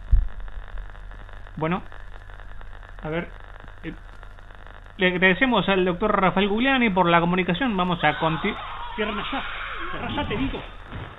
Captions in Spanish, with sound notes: Bueno... A ver... Le agradecemos al Doctor Rafael Gugliani por la comunicación, vamos a continuar... (gritos) ¡Cierren allá! ¡Cerrá allá, te digo!